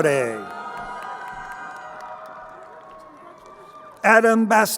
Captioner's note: crowd cheering